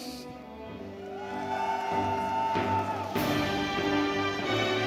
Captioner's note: audience cheering